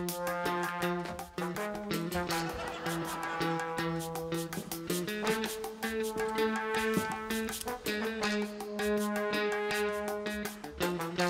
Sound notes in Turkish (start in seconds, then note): 1.7 Gülme efekti